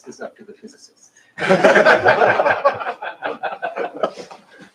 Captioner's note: laughter